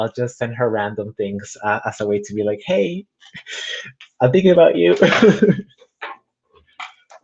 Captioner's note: laughs